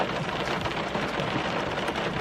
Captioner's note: raining